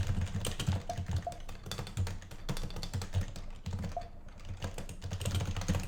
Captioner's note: furiously types